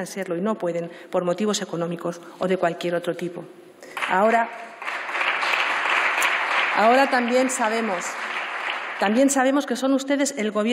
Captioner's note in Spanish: Aplausos